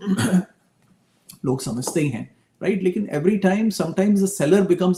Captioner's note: sound of clearing throat